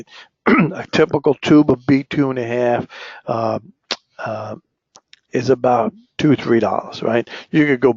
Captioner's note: cough